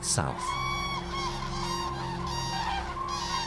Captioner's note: cranes cawing